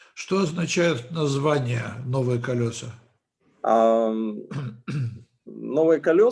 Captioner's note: translator speaking Russian language